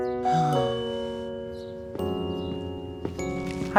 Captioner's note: sighing